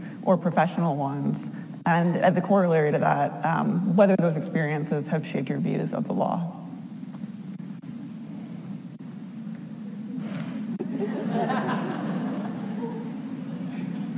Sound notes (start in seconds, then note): 7.3 speaking faintly; 10.8 audience laughs